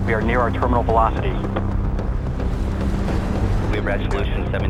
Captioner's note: air whoshing